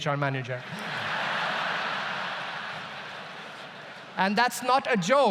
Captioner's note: audience laughs loudly